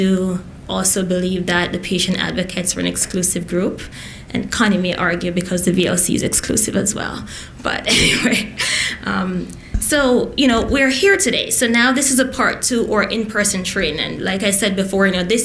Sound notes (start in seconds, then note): 7.8 laughs